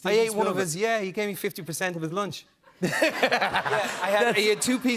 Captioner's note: laughter